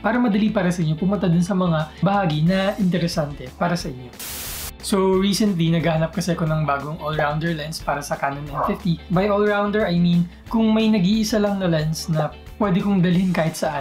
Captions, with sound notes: so it's easier for you to jump to the parts that interest you. (static sound) So recently, I was looking for a new all-rounder lens for Canon M50. By 'all-rounder', I mean that if there's only one lens I can take anywhere